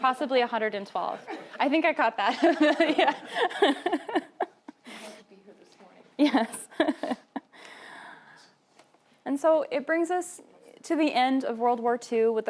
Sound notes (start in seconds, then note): 2.4 laughing; 6.2 laughing